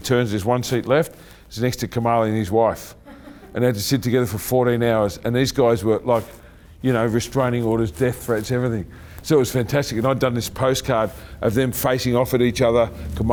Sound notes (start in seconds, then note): 2.9 chuckling